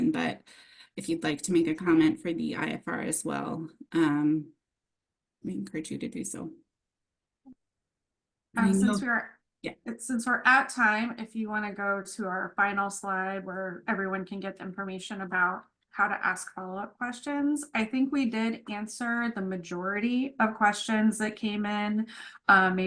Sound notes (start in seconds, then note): 8.6 chatter